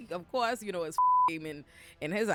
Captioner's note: beep